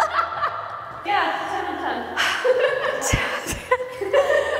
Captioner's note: all laughing; sighing; all laughing